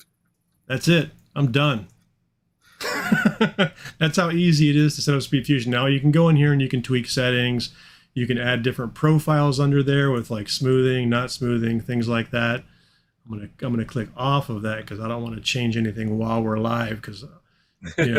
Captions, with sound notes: that's it. I'm done. (chuckling) That's how easy it is to set up a SpeedFusion. Now you can go in here and you can tweak settings. You can add different profiles under there with smoothing, not smoothing, things like that. I'm gonna, I'm gonna click off of that, 'cause I don't want to change anything while we're live 'cause you know.